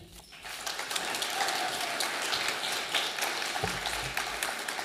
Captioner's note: audience applauding